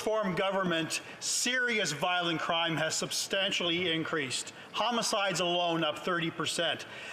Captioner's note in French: voix de l'interprète